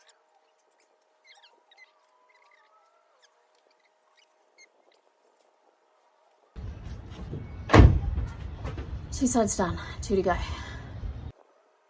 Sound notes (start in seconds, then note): 7.0 car door slams